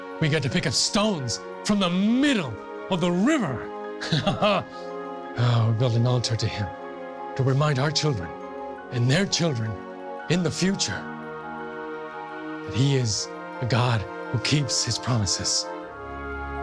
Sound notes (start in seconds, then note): 4.0 laughs